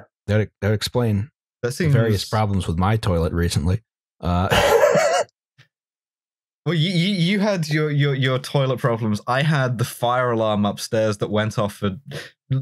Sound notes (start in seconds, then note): 4.4 laughs